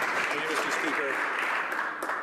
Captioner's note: some Applause